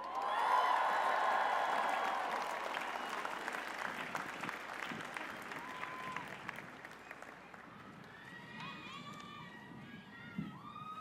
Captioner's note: cheers and applause